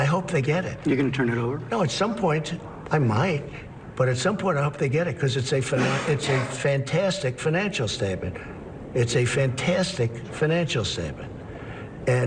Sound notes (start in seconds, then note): 5.7 coughs